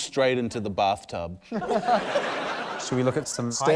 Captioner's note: laughter